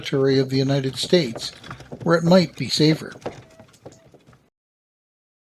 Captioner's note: cart wheels rolling